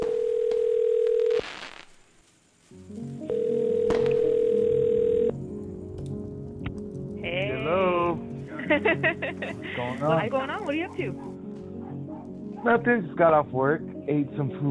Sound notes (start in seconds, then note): 0.0 phone ringing; 3.2 phone ringing; 8.5 laughing